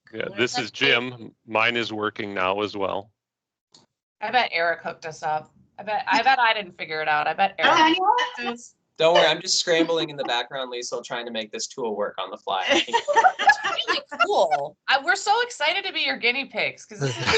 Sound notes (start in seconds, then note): 12.6 laughing; 17.0 laughing